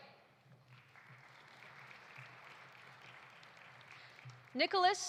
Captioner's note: audience applauding